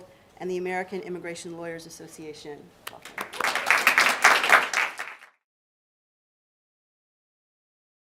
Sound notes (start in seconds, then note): 2.9 applause